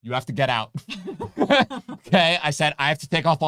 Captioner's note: both laughing